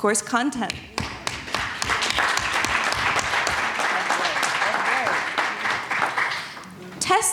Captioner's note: audience applause